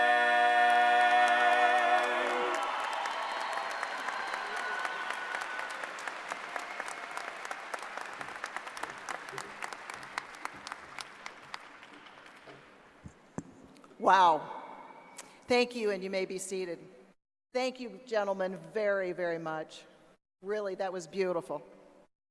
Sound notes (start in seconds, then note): 5.9 applause